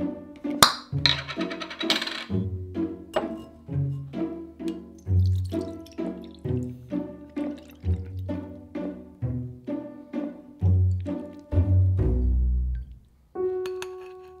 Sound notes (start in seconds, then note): 0.5 cap popping